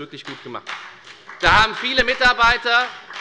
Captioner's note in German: Beifall bei der FDP